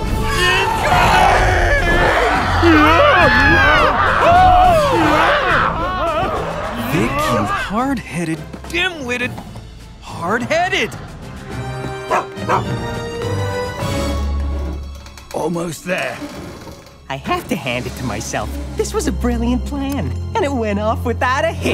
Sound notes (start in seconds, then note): 1.6 shrieks; 2.6 screams; 12.0 barks